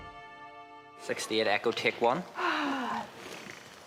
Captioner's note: sighs